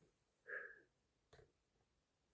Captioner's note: inhalation